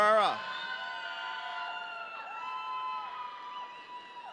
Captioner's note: audience cheering